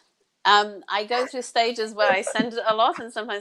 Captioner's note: laughs